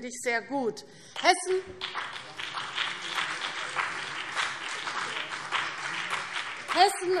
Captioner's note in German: Beifall CDU und BÜNDNIS 90/DIE GRÜNEN